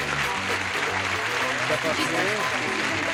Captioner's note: applause